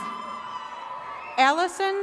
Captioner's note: attendees cheering